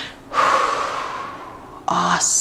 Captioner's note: exhales